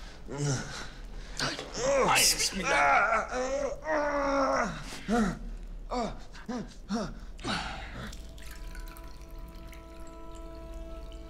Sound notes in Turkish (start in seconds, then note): 3.8 İnleme sesi